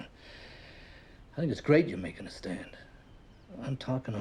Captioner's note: inhales deeply